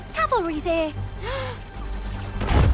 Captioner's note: gasp